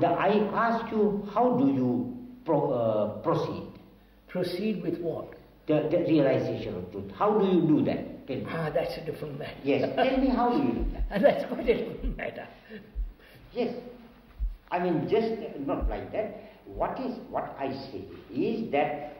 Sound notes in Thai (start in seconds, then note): 13.7 เสียงหัวเราะ